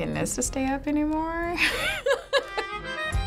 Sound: chuckles

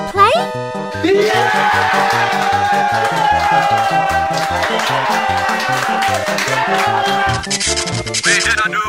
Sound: everyone cheering

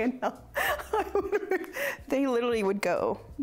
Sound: laughs

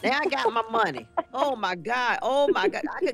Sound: laughing

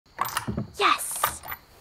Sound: door unlocking

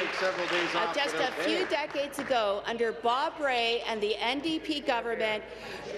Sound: applause

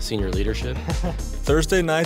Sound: chuckling

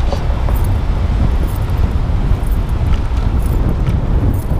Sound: wind whirring

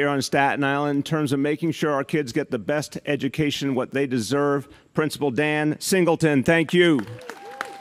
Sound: cheering & applause

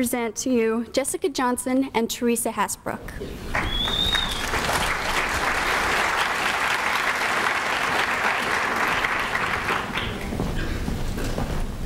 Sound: applause

